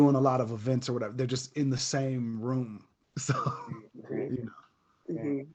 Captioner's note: laughs